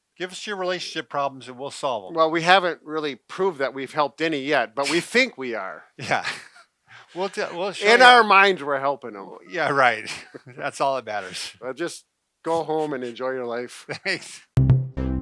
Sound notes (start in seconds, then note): 13.8 chuckling